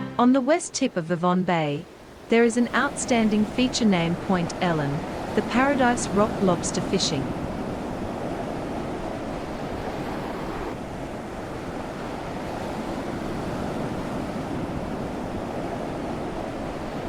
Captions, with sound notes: On the west tip of Vivonne Bay. There is an outstanding feature named Point Ellen, the Paradise Rock Lobster Fishing. [waves/winds]